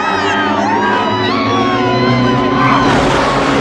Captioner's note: screaming